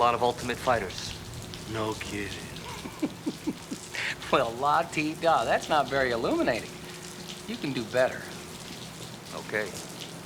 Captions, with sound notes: knew a lot of ultimate fighters. No kidding. (laughs) Well, la-di-da, that's not very illuminating. You can do better. Okay.